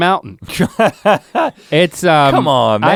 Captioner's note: Rhett laughs